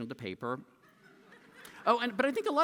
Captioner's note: laughter